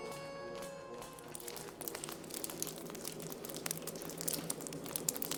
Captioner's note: water dripping